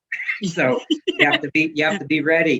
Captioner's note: laughs